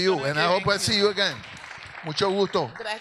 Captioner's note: audience laughs; audience applauds